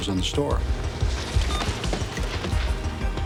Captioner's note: beeping